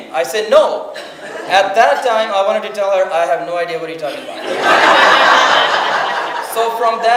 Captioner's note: audience laughs